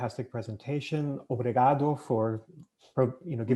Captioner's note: speaking In Foreign Language